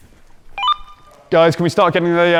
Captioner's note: walkie-talkie beeps